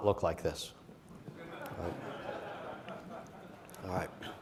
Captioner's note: audience chuckles